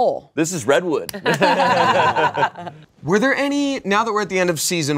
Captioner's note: everyone laughs